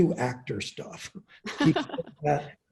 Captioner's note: laughing